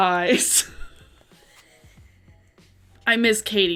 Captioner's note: laughs